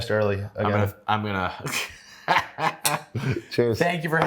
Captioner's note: laughs